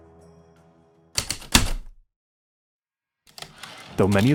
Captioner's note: typewriter keystrokes, return slide